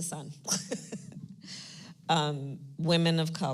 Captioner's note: laughs